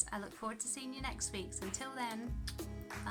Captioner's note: kiss